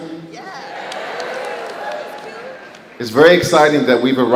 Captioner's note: crowd